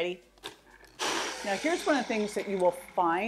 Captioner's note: machine whirs